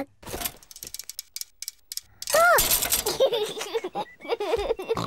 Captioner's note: giggling; snorts